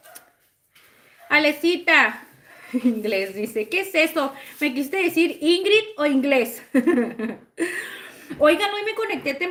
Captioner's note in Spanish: risas